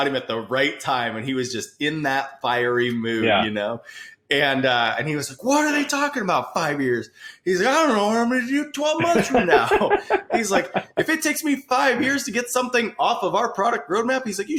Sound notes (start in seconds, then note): 9.0 laughing